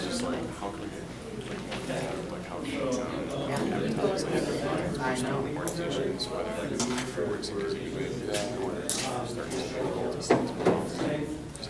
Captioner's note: talking within groups